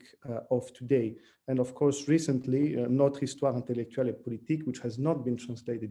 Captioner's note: french